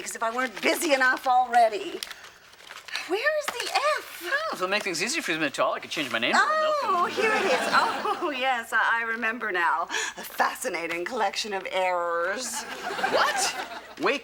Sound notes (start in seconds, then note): 6.3 exclaims; 6.8 chuckles